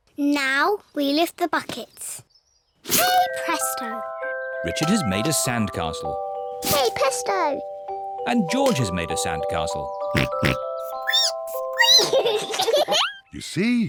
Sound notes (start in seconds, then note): 10.1 oinks; 10.9 squeaks; 11.2 both giggle